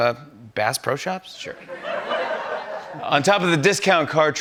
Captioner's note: laughter